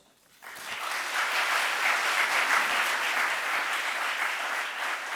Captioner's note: audience applauds